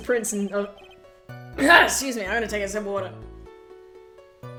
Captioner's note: clears throat